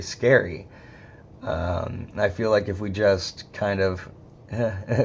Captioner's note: chuckles